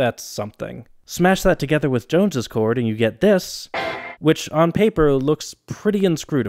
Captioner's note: bang